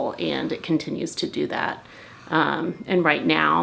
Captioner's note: none